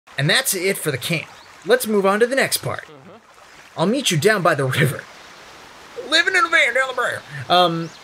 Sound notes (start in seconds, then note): 2.7 chuckles